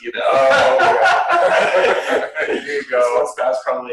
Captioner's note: laughter